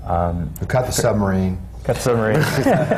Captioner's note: laughter